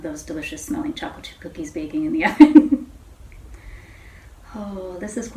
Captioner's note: chuckles